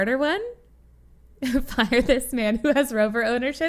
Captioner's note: laughs